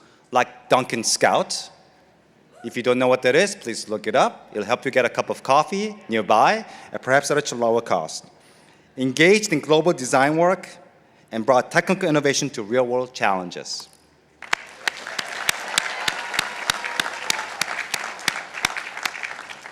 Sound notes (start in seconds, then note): 14.4 participants applauding